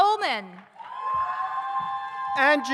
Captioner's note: audience cheers